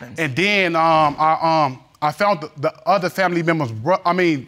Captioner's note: stammering